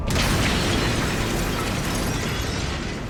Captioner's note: crash